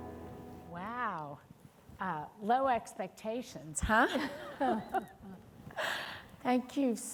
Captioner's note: chuckles